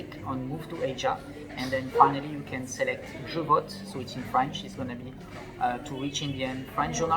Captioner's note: it's in French